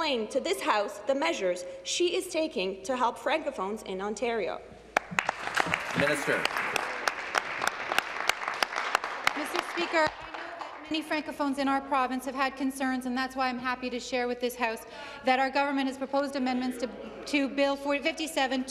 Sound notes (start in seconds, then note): 7.2 applause